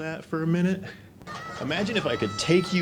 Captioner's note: video playing - screaming on roller coaster